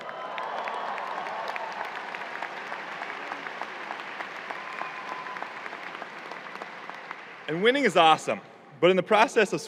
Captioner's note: clapping and cheering